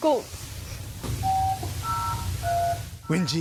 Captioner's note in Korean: 다이얼 소리